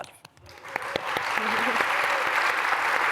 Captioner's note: applause